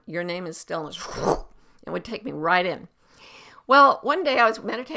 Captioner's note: slurps